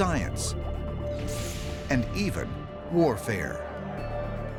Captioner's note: buzzing